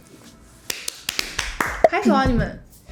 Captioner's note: clapping a slate